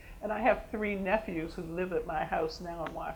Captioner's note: none